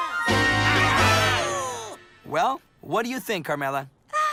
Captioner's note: excited cheers